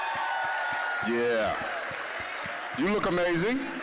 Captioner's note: applause; applause, cheering